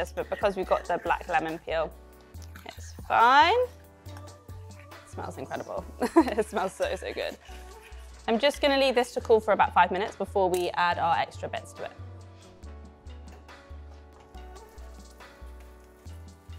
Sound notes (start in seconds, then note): 5.9 chuckling; 13.3 soft upbeat music